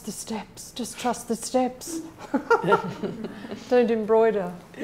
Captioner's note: laughing